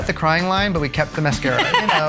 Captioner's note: laughs